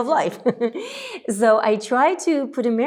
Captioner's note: chuckles